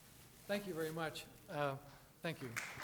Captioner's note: audience applauding